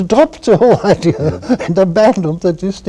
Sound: laughter

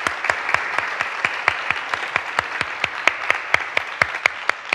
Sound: all applauding

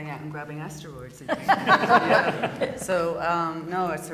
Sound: laughter

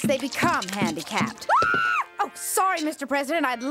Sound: screams

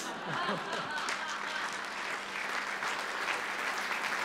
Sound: laughter, applause

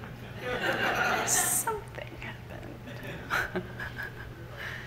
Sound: audience laughs; laughs; laughs from the audience

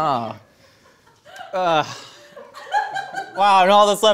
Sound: people laughing

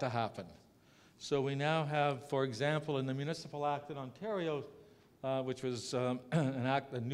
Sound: cough

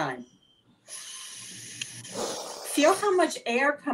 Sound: inhaling

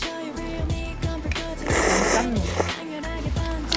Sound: slurping up some seafood ramyeon noodles

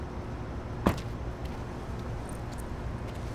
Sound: car trunk closes

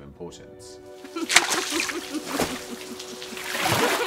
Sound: splashing and laughter

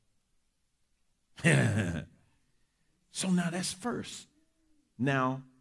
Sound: laughs

